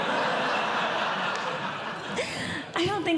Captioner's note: audience Laughing